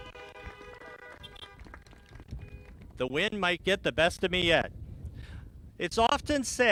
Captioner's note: applause